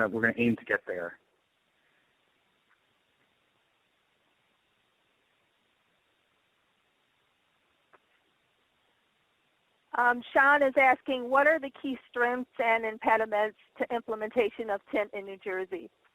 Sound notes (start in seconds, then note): 1.0 silence